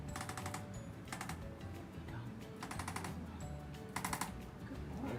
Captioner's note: arthrostim clicks